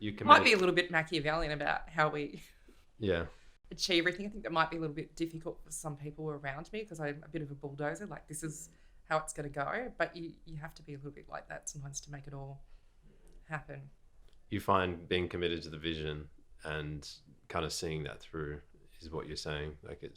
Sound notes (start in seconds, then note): 2.4 laughing